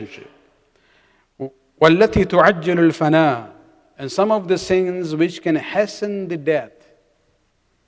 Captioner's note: arabic